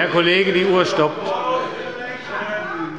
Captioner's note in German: Zurufe von der SPD